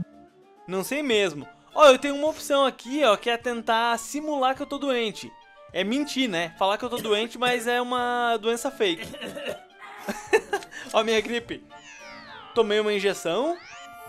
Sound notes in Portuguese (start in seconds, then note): 9.9 Risos